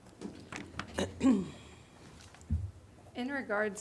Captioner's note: clears throat